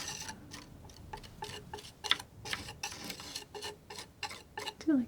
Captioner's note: scratching